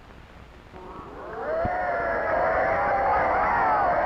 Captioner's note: cheering